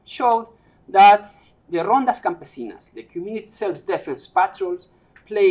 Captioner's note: non-english speech